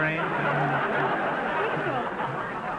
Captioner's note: audience laughter